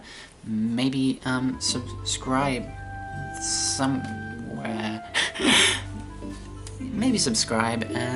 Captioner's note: laughs